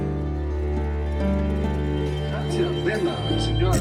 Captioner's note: speaks Italian